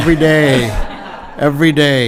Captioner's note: audience laughing